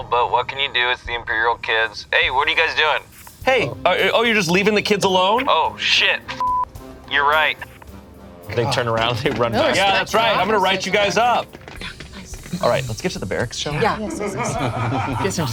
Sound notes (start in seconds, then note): 6.3 beep; 14.4 crew laughs